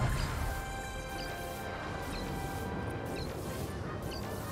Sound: video game sounds

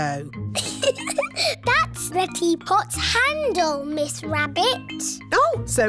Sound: giggles

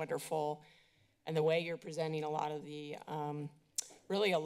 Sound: clicks tongue

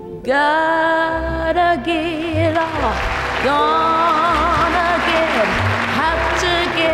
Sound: audience applauds

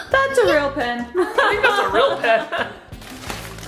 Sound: laughing

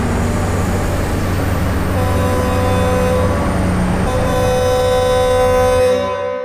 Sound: truck Horn Honks

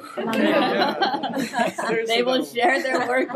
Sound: people laughing

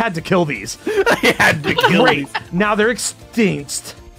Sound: laughs

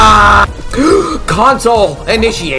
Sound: gasp

